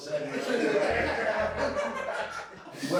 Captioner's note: inmates laugh